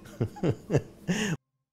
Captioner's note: laughs